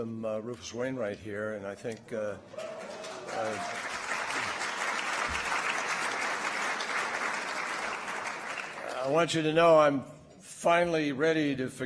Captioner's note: applause